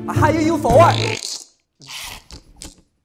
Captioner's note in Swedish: Prutt